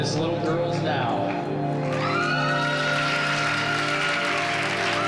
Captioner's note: cheering and applause